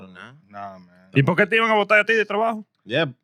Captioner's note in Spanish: Hablando en idioma extranjero